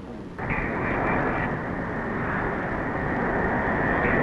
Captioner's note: engine roaring